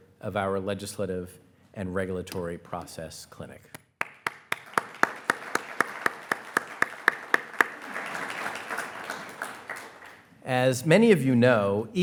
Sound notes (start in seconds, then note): 4.0 everyone applauding